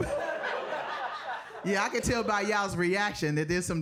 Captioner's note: audience laughing